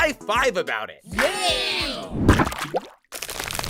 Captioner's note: Just Not cheers